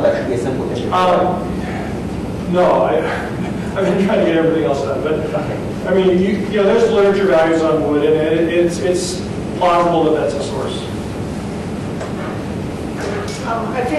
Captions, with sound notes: That should be a simple measurement. - No, I... (sighs) I've been trying to get everything else done, but I mean, you... There's mercury levels on wood and it's plausible that that's a source.